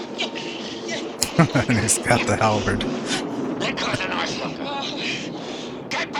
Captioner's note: laughing